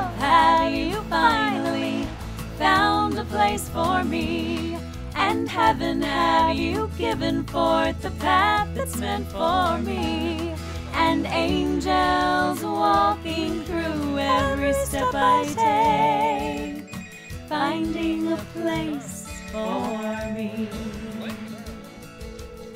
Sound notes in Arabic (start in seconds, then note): 16.7 رنين الهاتف